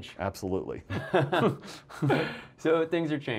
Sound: laughing in unison

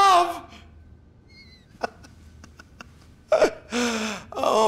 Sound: guffaws

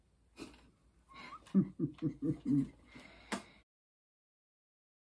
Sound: laughs

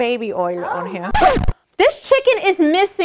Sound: record scratch

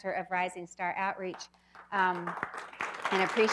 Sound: clapping

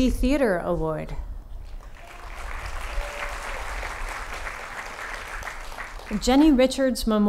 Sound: applause

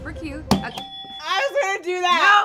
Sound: buzzer chimes

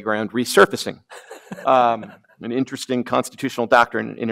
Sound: snickers

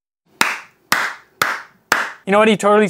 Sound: slow clap

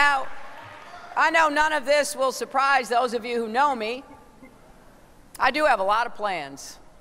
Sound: applause

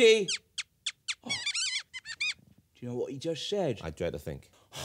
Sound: squeaking

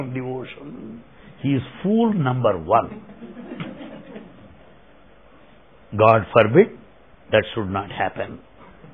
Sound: laughter

